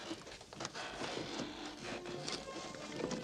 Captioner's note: rustle; the Sad Music